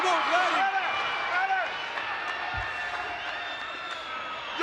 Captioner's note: crowd cheers